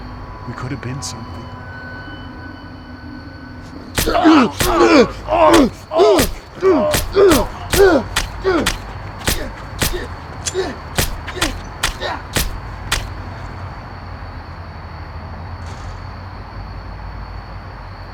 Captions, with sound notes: We coulda been something. [knife stabbing] [Baker wincing]